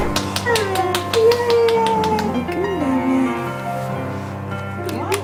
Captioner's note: cheering and clapping